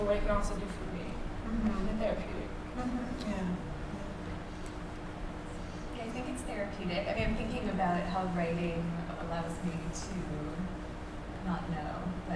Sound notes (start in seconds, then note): none